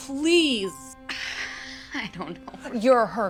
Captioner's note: sighs